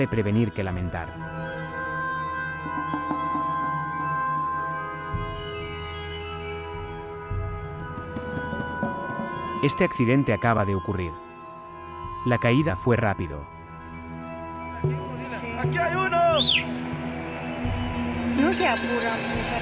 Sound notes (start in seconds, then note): 3.2 mysterious music; 16.3 people chattering